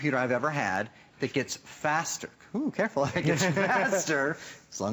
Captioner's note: laughter